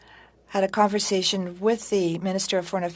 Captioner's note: speaking french